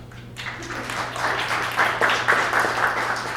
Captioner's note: applause